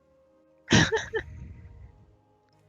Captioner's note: haha